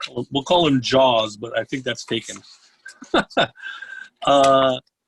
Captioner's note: laughs